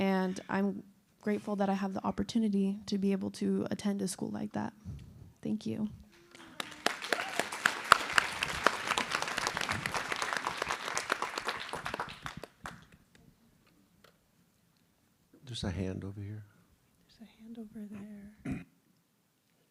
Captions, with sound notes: And I'm grateful that I have the opportunity to be able to attend a school like that. Thank you. [APPLAUSE] There's a hand over here. There's a hand over there.